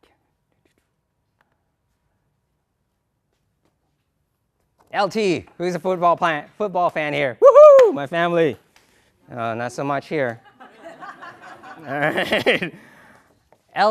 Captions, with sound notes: LET ME GO BACK HERE. L.T. WHO IS A FOOTBALL FAN HERE? WHOO-HOO, MY FAMILY. OH, NOT SO MUCH HERE. [ LAUGHTER ] ALL RIGHT.